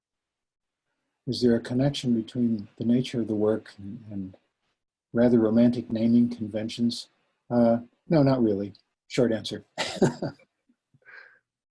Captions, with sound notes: is there a connection between the nature of the work and rather romantic naming conventions? No, not really, short answer (chuckles).